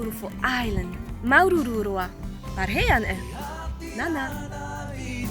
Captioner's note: foreign language